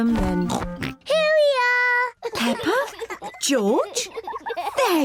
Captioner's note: both oinking; both laughing